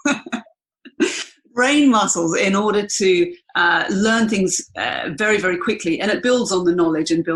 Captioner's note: laughs